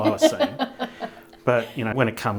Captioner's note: laughing